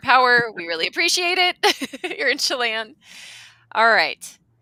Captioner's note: laughing